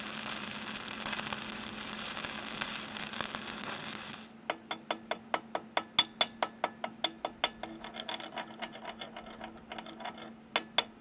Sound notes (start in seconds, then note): 4.6 metal clinking